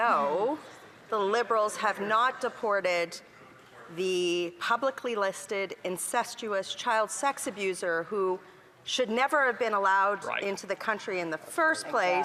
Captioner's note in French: voix de l'interprète